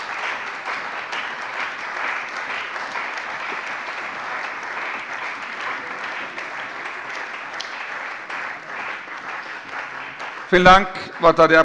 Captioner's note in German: Beifall bei der CDU und dem BÜNDNIS 90/DIE GRÜNEN